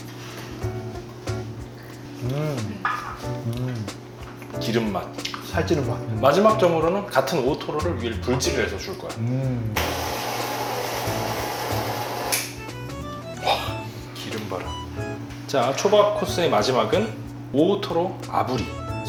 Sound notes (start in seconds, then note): 12.4 sizzle